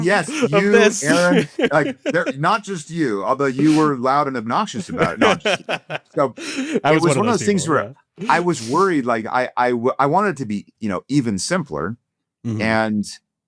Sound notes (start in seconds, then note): 0.0 laughs; 4.7 laughs